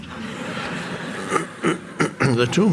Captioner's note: audience laughs